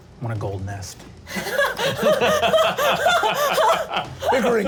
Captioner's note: laughs